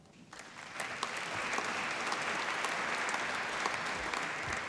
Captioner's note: applause